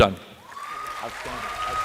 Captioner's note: applause